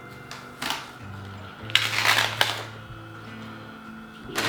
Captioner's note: sound of unsticking